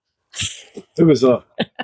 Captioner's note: laughter